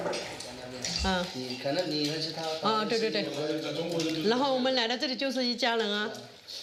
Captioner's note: speaking foreign language